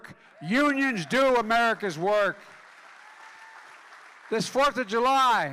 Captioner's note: applause